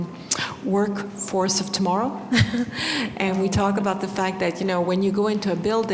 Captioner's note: laughs